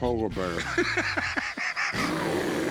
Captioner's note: laughs